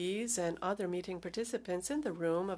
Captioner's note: speaking French